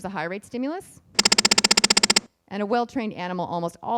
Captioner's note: beeping